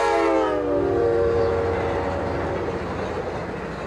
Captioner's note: train whirs